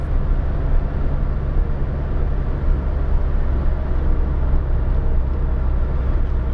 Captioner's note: Sounds of DeLorean on road